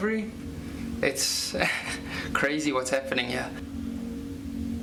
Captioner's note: laughs